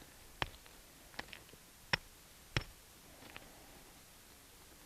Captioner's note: hammer tapping